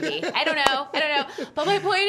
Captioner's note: laughing